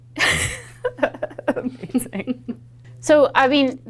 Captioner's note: laughs